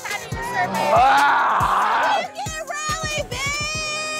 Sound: screams

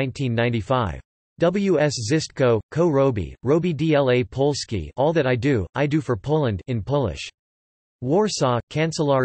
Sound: in Polish

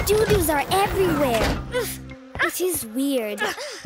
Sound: children grunting

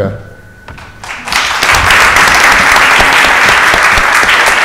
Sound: audience applauds

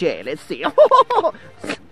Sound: laughs

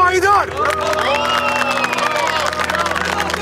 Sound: applause and cheers

